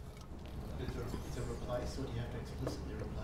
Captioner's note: voiceover